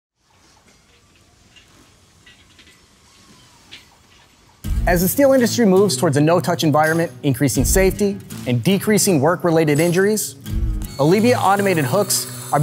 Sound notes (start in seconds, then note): 0.7 metal clanking